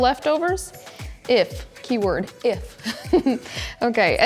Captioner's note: giggles